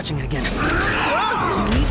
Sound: grunts

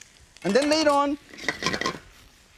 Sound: knife clinks; pan clinking

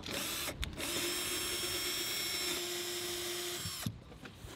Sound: drill whirring

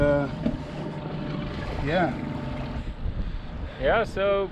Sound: boat engine idling

